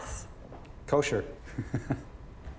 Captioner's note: chuckles